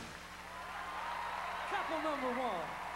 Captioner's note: crowd cheering